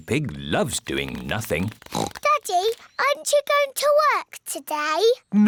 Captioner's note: oinks